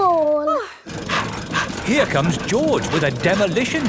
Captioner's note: daddy pig panting